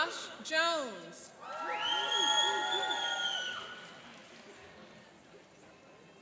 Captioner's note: cheering and applauding